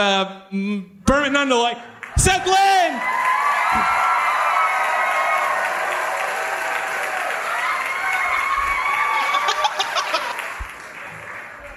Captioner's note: audience applauds